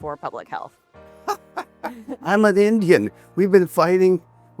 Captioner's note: laughs